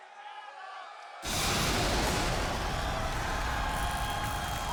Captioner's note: crowd cheering